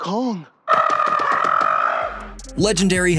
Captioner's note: monkey calling